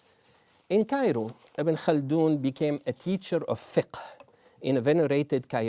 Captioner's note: non-english